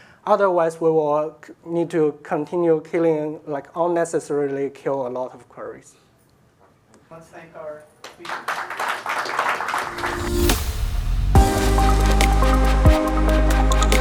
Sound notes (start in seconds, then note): 8.1 audience applauds; 9.8 inspirational music